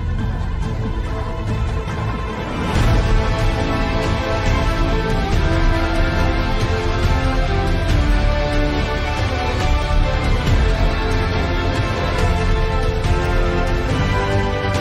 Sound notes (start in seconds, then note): none